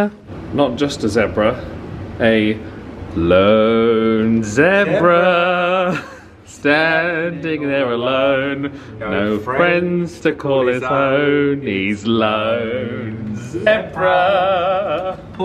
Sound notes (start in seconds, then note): 8.3 chuckles